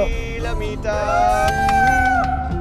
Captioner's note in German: Jubel